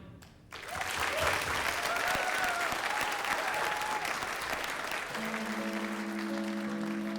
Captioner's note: applause